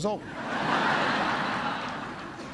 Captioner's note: laughter